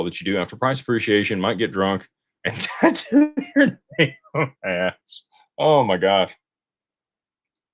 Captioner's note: laughter